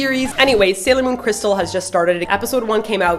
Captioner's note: record scratches